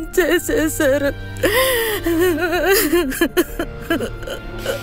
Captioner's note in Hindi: सिसकते हुए